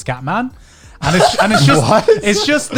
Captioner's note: laughs